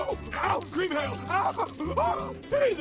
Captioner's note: screaming